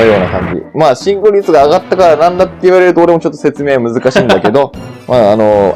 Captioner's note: laughs